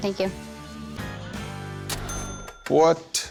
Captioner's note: cash register ring